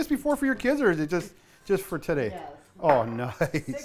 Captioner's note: voiceover